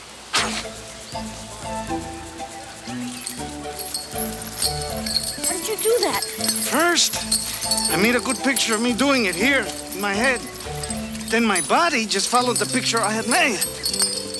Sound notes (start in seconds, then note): 0.3 Crecencio blows; 3.3 chain rattles